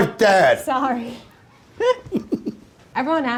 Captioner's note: both laughing